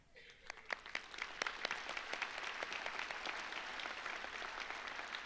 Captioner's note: audience applauds